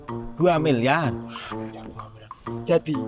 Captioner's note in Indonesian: Sogek menggerutu